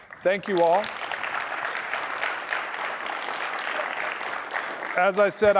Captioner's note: applause